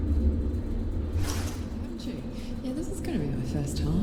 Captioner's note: voices in tunnel